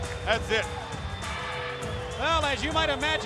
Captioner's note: crowd cheering